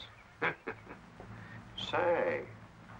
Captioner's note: man chuckles